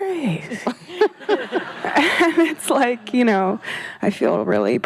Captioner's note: laughing